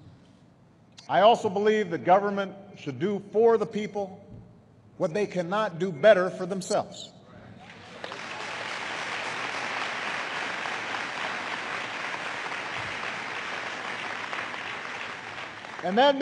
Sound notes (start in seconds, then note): 11.0 applause